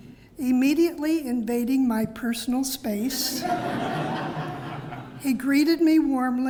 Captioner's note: laugh